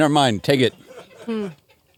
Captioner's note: laughs